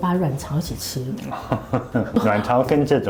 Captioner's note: laughs~